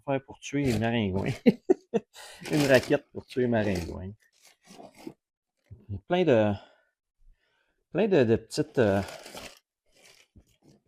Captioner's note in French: rires